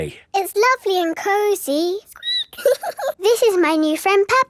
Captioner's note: squeaks